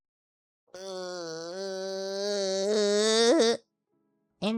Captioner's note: groan